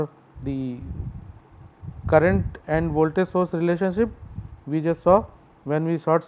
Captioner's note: short circuit